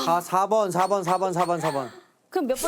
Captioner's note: obvious fake laugh